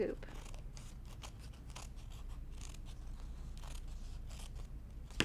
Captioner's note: scissors snipping